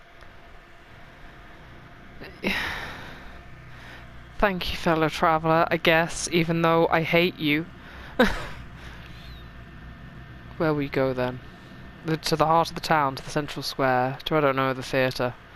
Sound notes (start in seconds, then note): 2.2 exasperated noise; 8.1 laughs